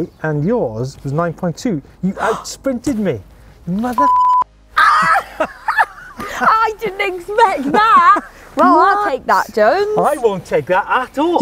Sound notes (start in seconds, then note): 2.1 gasps; 4.8 laughs